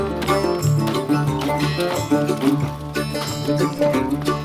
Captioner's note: hatchet thudding